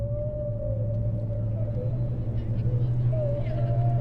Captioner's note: whale calling